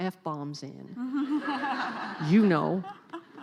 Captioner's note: laughing